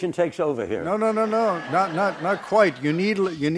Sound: background laughter

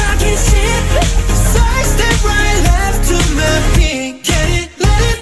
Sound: heartbeat

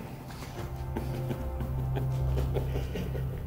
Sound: chuckles

